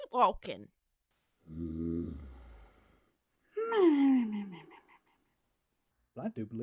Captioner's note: snores louder